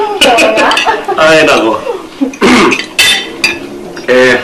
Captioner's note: clears throat